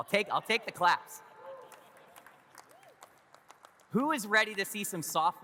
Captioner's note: audience claps